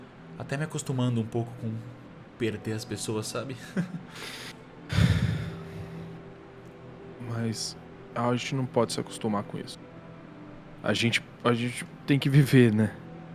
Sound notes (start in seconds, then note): 3.6 sad chuckle